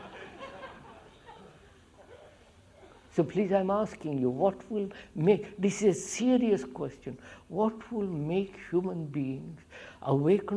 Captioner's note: laughter